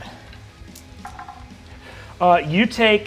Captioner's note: dice rolls